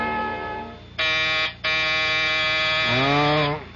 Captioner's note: buzzer